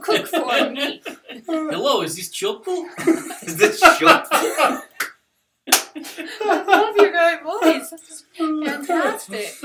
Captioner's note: laughter